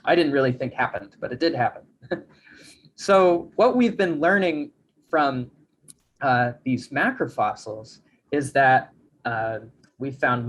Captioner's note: chuckles